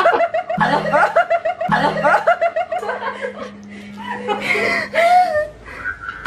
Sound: laughs

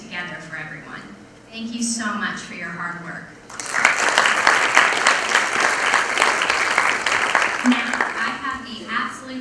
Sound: applause

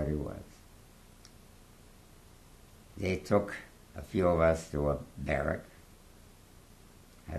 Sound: pauses for 3 seconds

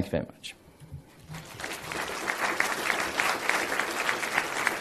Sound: applause

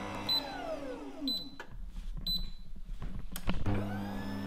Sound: machine beeping

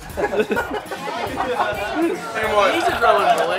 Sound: laughter

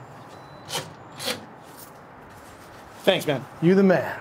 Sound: lock clicks

